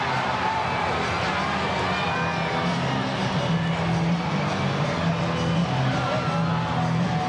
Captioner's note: crowd chattering; upbeat rock music